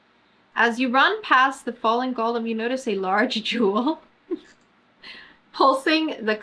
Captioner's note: laughs